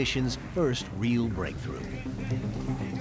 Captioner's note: none